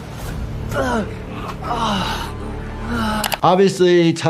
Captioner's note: man screams; superhero thuds; superhero grunts